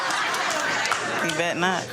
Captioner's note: audience applauding